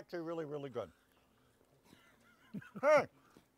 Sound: chuckling

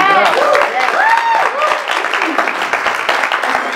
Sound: applause

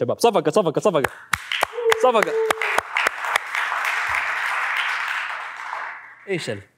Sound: clapping

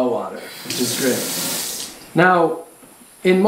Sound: sound of water running

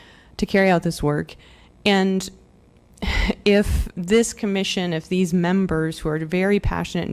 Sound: laughter

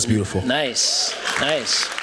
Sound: applause

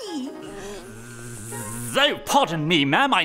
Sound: buzzing

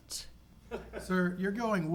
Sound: attendee laughs

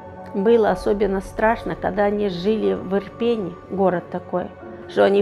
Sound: speaking Ukrainian

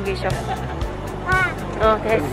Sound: exclamation

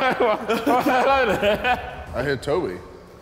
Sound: laughing

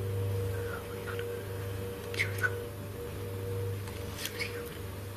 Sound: both whisper

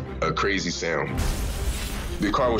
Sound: glass shattering

